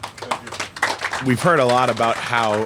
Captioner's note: applause